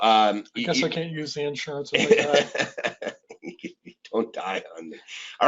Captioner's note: laughing